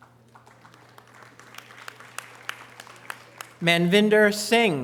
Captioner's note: audience applause